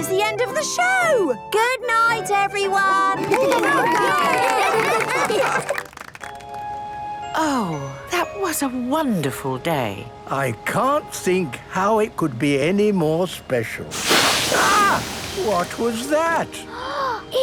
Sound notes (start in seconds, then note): 3.2 cheering, applause; 17.2 gasps